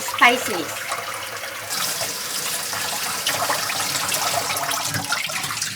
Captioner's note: water splashing